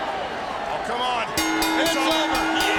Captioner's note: bell rings